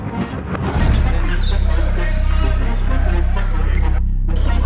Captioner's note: shoes squeaking